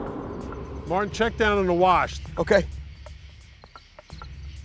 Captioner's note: none